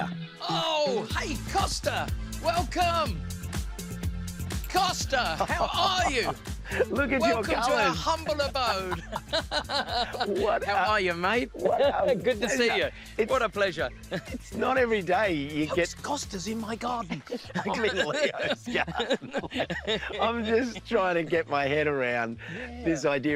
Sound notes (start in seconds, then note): 5.2 costa laughs; 9.1 both laugh